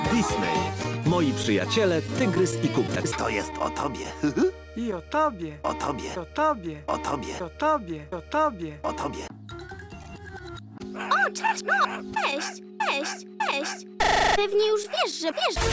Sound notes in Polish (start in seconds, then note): 8.2 głosem Kubusia; 8.8 głosem Tygrysa